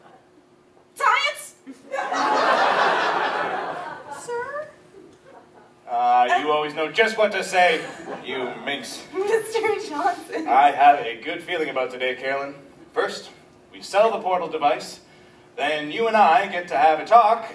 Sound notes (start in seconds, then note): 1.8 audience laughs